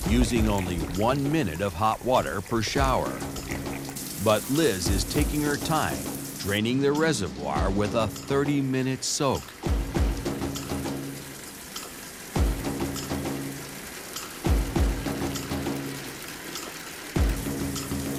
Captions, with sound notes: USING ONLY ONE MINUTE OF HOT WATER PER SHOWER. BUT LIZ IS TAKING HER TIME, DRAINING THEIR RESERVOIR WITH A 30-MINUTE SOAK. [ WATER RUNNING ]